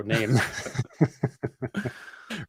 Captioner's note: laughter